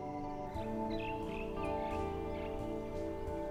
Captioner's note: birds chirping